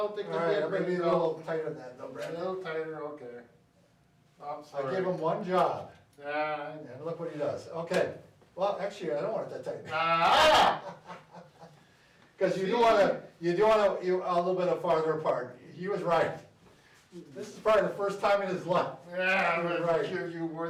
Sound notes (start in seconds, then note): 9.9 laughs; 10.2 yells